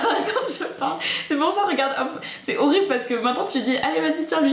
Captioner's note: laughter